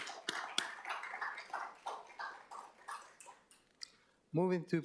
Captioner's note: applause